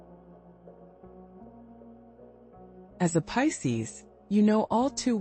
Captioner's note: pause